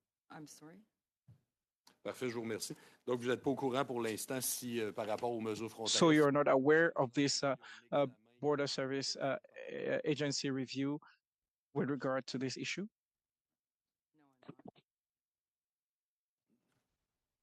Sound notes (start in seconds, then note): 7.9 speaking French